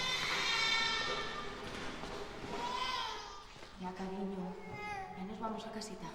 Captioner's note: baby cries